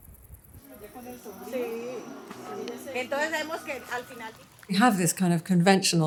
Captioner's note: woman speaking in foreign language